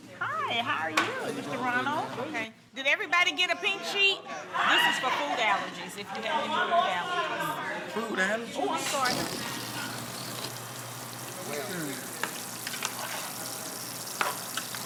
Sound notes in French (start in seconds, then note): 12.1 grésillement